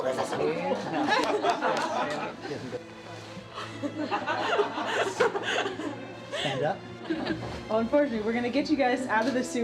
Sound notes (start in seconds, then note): 2.1 laughter